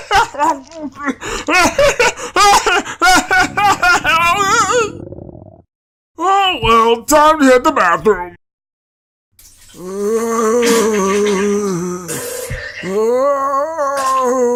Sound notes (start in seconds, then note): 0.5 munching heard; 3.2 stomach growling; 9.6 Ol' Man Jo groaning while pooping